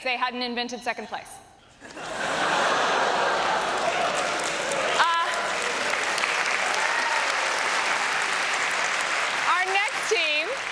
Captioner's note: applause